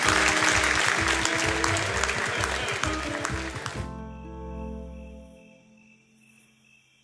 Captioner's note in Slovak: Potlesk